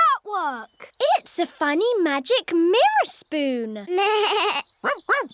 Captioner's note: bleats